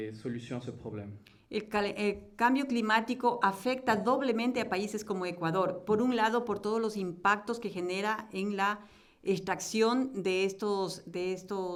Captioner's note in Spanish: Español